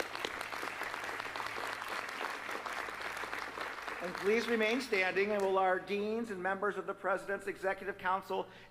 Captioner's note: applause